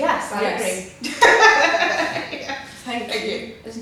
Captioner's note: laughs